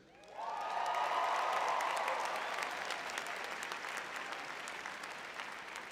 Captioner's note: cheering